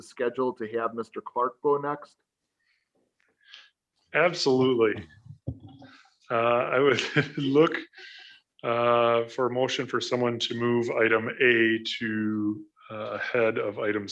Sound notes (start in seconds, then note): 6.8 laughs